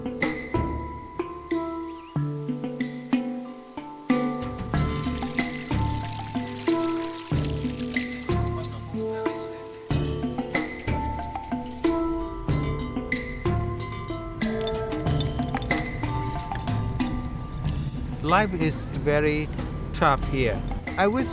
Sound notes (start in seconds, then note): 0.2 calm music; 5.1 water running; 8.4 calm music